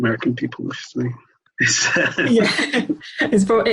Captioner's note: both laugh